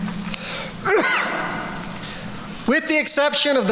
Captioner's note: sneeze